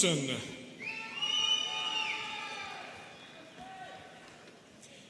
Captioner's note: students cheering